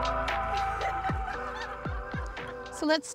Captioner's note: laughing